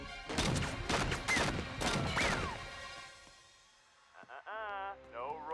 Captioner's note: dramatic music; guns firing